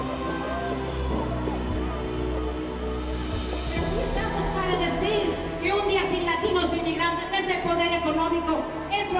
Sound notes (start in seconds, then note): 3.7 speaking in foreign language